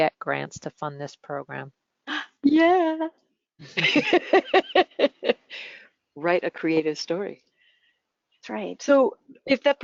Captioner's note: laughter